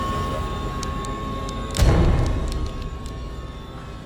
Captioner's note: cracking